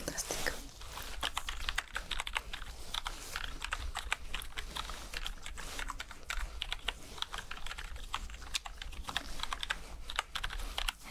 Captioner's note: typing sounds